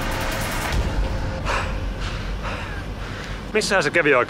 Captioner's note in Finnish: Puuskutusta